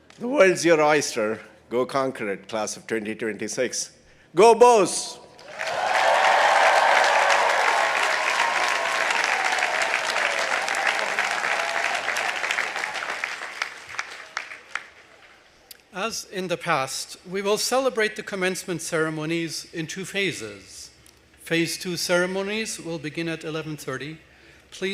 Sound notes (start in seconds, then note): 5.8 audience applauding